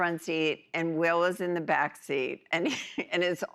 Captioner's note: chuckles